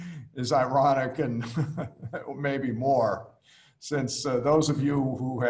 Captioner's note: laughs; laughs